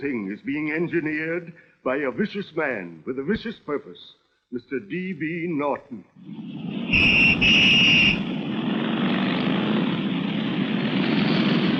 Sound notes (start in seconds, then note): 6.9 whistle blowing; 8.8 engines revving